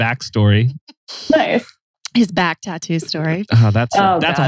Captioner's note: laughs